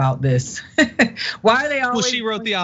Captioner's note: laugh